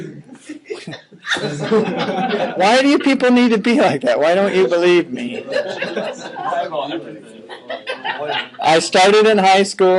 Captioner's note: laughing